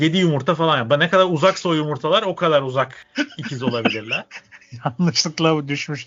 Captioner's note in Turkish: kahkaha